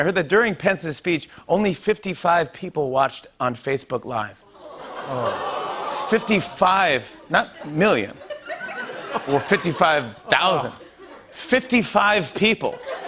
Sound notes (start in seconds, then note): 4.4 ohhs and laughter; 12.6 laughter